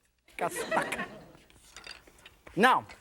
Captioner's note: laughter